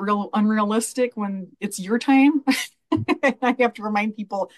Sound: laughs

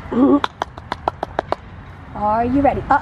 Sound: clapping

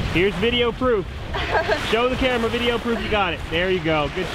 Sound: laughing

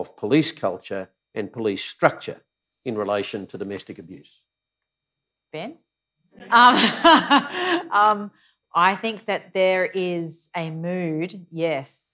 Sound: laughs

